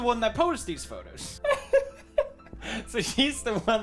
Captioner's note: laughs